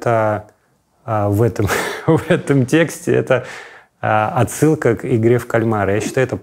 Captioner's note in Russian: смеясь